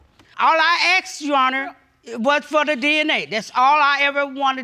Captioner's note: none